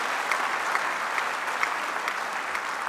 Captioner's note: applause